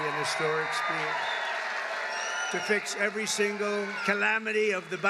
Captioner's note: applause